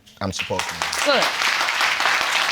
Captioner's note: audience clapping